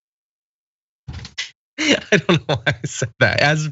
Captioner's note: laugh